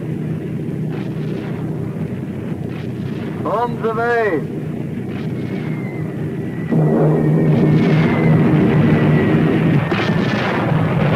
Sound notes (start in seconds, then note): 5.4 plane engines roaring; 6.7 missiles whooshing; 9.7 explosion booming